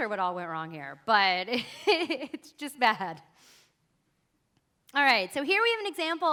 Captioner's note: chuckles